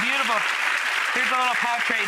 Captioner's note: audience applauding